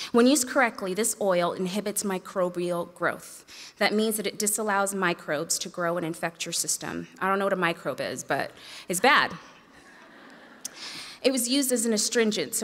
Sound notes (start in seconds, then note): 9.4 audience laughs